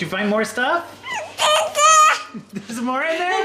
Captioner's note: squeals